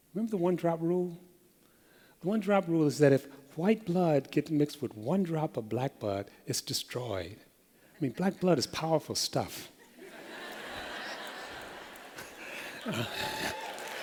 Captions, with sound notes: Remember the one-drop rule? The one-drop rule is that if white blood gets mixed with one drop of black blood, it’s destroyed. I mean, black blood is powerful stuff. [LAUGHTER]